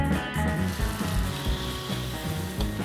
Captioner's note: sizzling